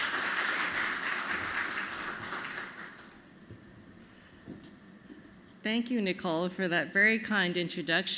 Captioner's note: applause